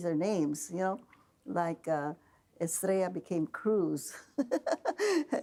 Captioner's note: laughing